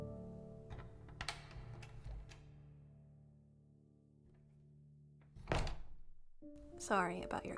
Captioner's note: door opens, door closes, echo ends